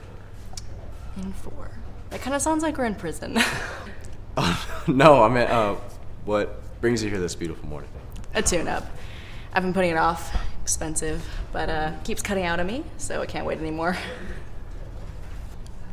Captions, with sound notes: - In for? That kind of sounds like we're in prison. (Laughs) - No, I meant what brings you here this beautiful morning. - A tuneup. I've been putting it off, expensive, but keeps cutting out on me so it can't wait anymore.